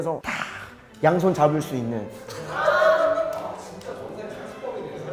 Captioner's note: sighing deeply